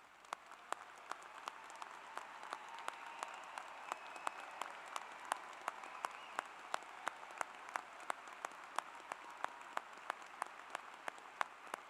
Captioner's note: applause